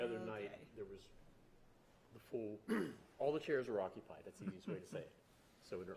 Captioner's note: clears throat